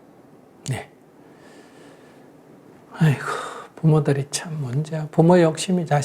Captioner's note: Sunim Sighs